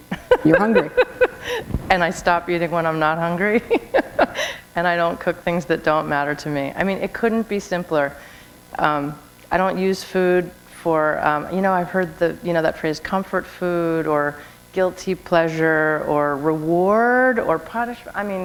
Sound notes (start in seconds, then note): 0.0 laughter; 3.7 chuckle